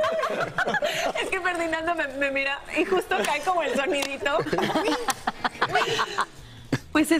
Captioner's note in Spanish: risas